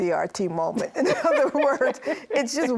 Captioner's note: both laugh